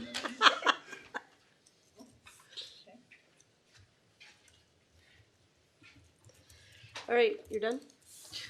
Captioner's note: laughter